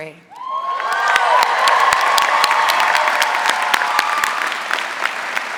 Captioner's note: audience applauding loudly